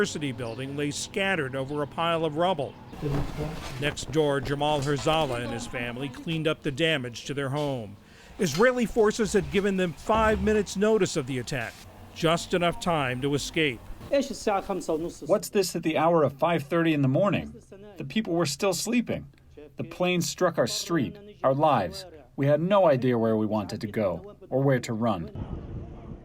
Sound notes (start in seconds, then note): 14.4 through translator